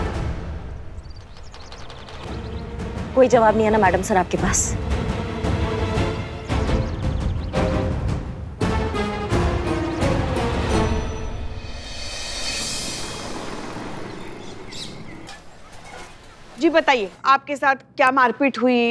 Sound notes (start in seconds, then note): 6.1 tense music; 13.5 birds chirping